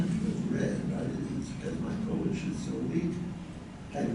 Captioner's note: none